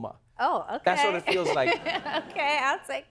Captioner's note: laughs